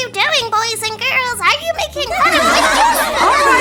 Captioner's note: children laughing